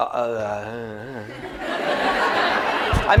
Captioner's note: laughter